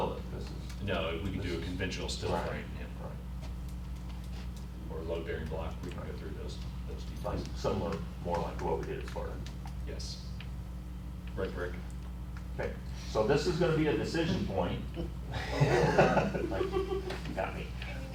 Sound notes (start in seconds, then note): 14.9 laughter